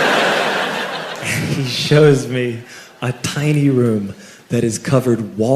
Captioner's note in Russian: смеясь